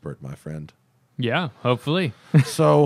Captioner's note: laughter